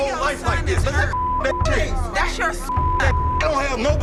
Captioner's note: beeping